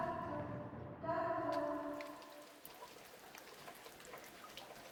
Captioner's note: rain pattering